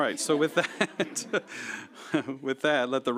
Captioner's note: laughter